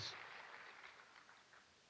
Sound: cheers

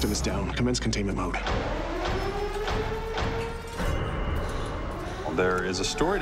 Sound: alarms sounding

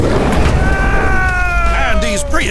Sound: screaming

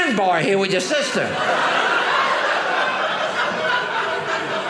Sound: audience laughing

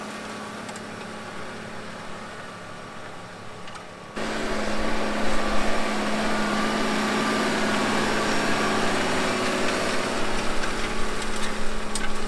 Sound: tractor sound

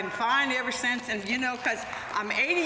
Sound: applause

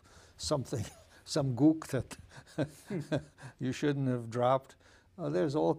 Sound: laughing

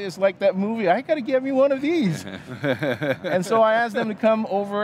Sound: laughing

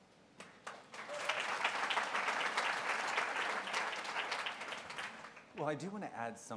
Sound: applause

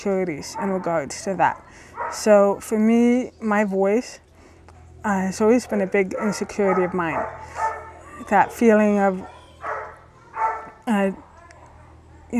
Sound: dog barking in the background

